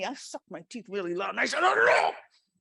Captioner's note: growls